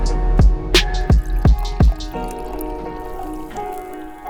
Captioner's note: liquid pours